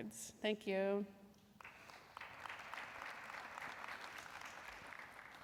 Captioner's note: applause